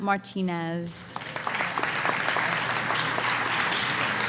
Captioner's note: applause